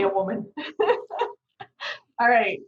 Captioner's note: laughing